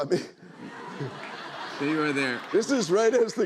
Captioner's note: laughter